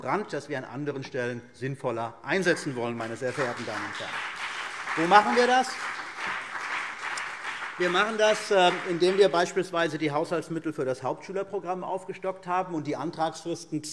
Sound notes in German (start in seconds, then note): 2.6 Beifall CDU und BÜNDNIS 90/DIE GRÜNEN